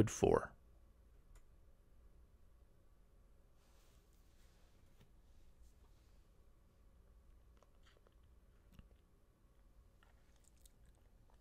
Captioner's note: pause